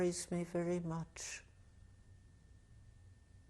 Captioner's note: pauses for 3 seconds